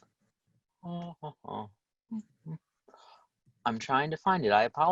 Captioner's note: humming